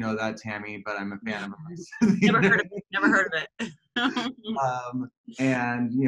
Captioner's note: laughter